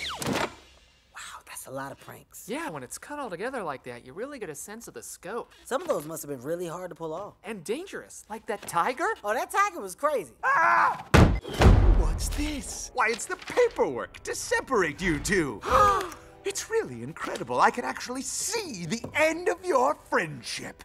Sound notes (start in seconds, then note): 15.6 George and Harold gasp